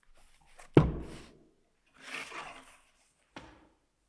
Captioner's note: book thuds